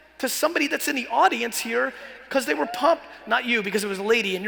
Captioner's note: man cheers